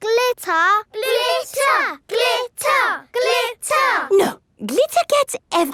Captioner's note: chanting